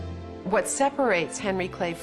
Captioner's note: voiceover